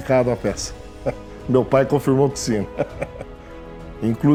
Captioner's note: laughter